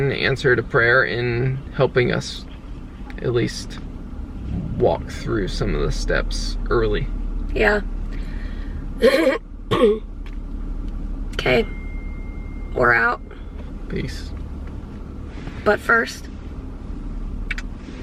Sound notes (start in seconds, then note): 9.7 clearing throat; 17.2 smooch